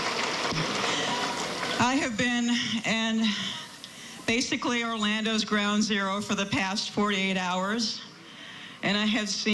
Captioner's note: applause